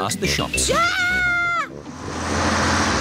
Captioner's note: shrieks